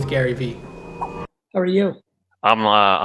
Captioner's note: air whooshing